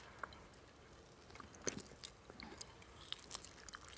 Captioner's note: chewing